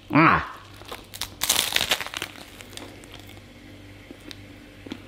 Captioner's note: baguette crunches